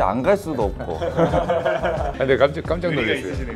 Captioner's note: laughter